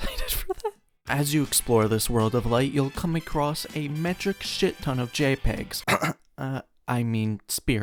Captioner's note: clears throat